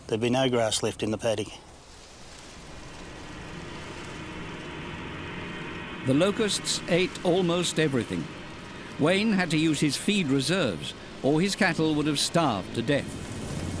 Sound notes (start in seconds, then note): 3.4 locusts buzzing; 3.4 suspenseful music